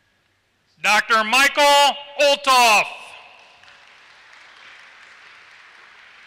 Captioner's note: applause